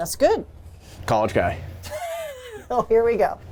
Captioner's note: laughing